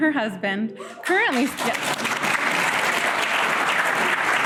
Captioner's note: applause